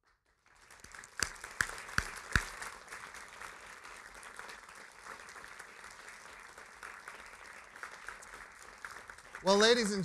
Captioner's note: applause